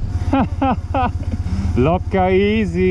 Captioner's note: laughs